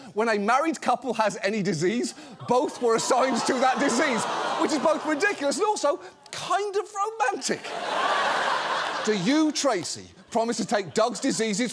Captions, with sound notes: when a married couple has any disease, -both were assigned to that disease... -(AUDIENCE GROANS) ...which is both ridiculous and also kind of romantic. (AUDIENCE LAUGHS) "Do you, Tracy, promise to take Doug's diseases